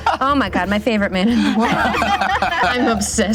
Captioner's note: laughter